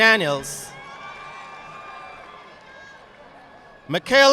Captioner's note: audience applauding